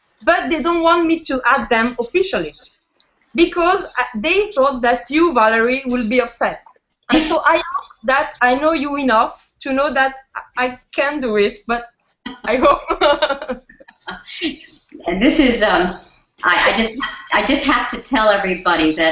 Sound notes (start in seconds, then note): 7.1 laughs; 12.3 laughs